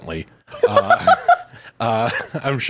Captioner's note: laughing